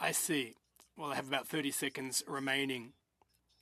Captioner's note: speaking in French